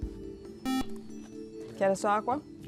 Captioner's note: buzzer